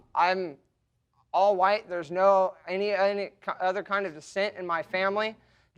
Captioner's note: stammering